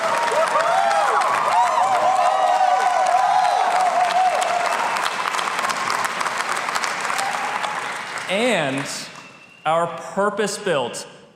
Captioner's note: applause